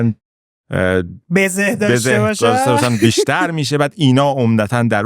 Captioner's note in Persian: خنده